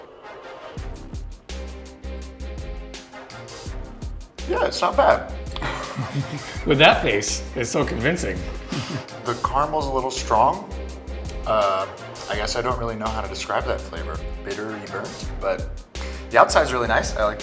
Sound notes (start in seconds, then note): 0.2 dramatic music; 5.5 laughter